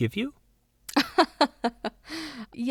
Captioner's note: laughs